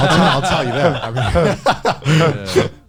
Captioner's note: laughing